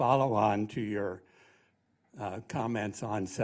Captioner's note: voiceover